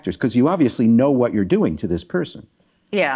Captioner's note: none